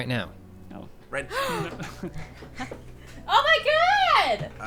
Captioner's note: gasping